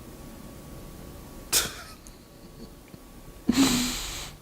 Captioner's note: laughs